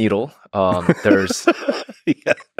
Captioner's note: laughs